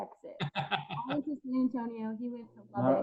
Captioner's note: laughs